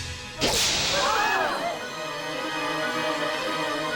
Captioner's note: screaming; dramatic music